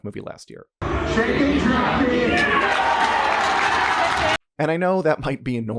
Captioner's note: cheers